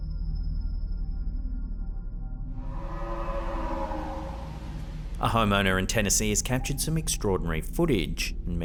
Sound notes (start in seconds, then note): 2.5 creature howling